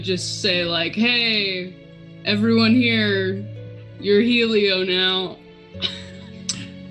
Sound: laughs

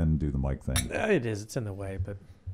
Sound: glasses clinking

